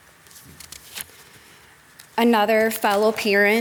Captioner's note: pages shuffling